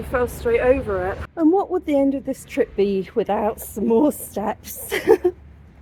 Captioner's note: laughing